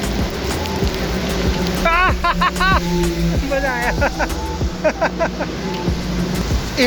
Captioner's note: laughs